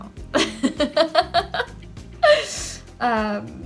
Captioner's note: laughs